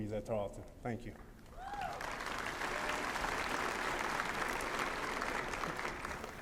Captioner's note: applause